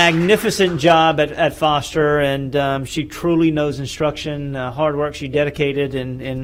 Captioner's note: applause